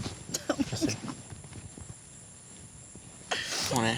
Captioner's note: sniffles